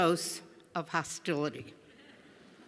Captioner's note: laughter